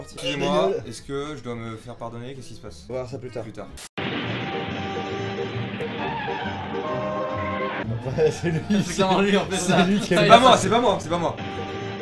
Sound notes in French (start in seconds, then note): 7.9 rire leger